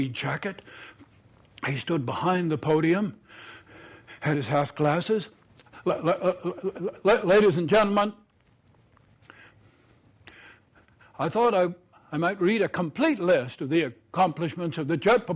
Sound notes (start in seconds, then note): 7.1 breathing heavily